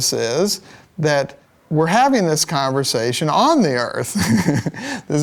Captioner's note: laugh